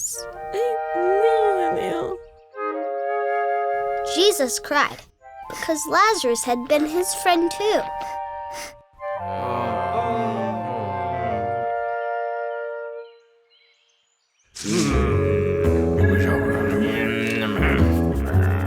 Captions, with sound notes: Jesus cried, because Lazarus had been his friend, too. (grumbling)